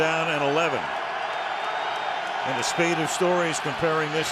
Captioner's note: cheering